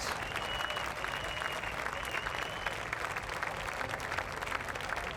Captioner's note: audience applauding